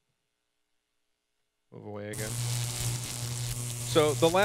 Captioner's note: electricity buzzing